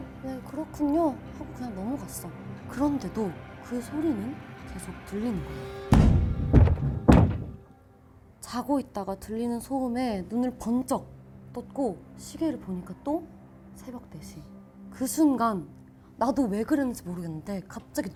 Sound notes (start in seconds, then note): 5.9 thud, thud, thud